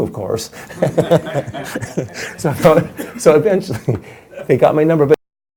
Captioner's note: everyone laughs